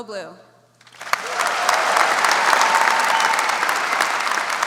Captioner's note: audience applauds